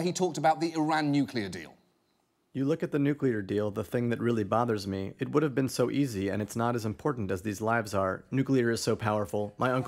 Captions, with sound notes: where he talked about the Iran nuclear deal. (MONOTONE VOICE READS ON-SCREEN TEXT)